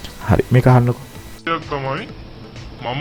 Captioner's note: voice recording starts